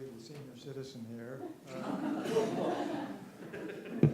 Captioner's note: laughter